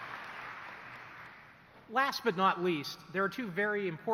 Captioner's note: applause